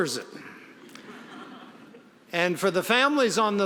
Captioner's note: audience laughing